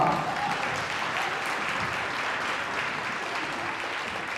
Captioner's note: audience applauding